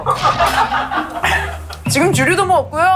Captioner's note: coughs